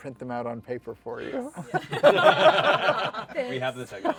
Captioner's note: laughter